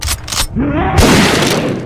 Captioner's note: pumps shotgun; creature roars; shotgun blast